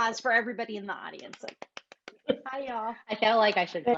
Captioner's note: claps